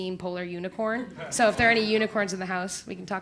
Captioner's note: laugh